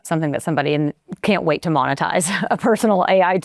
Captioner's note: chuckles